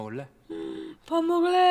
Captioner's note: sharp inhale